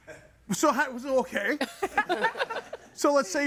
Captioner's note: guests laughing